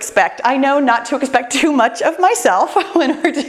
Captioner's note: laughs